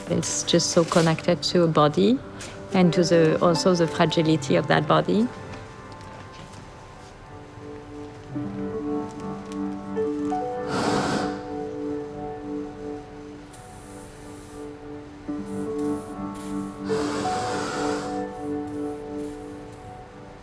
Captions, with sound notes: It's just so connected to a body and also the fragility of that body. (gentle music) (fire whooshing)